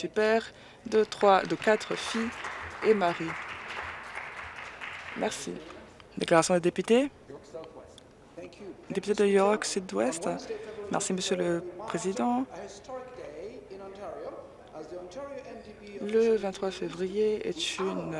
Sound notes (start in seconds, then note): 4.8 applause